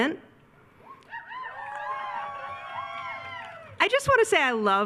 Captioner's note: attendees cheering